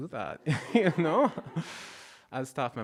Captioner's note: audience laughing